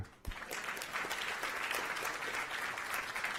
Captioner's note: applause